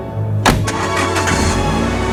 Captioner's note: orchestral music; car starting